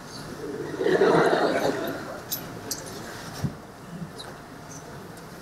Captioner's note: audience laughing